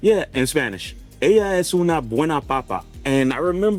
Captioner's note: speaks in Spanish